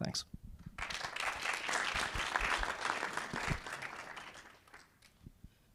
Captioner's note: audience applauding